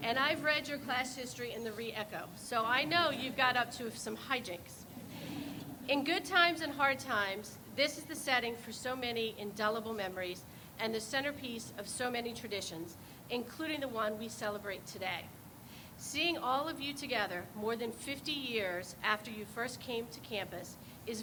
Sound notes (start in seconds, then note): 4.9 people laugh